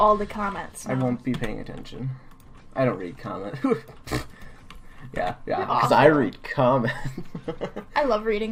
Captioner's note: laughing